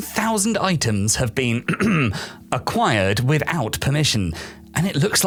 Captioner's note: ahem